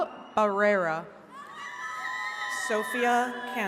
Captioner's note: attendees cheering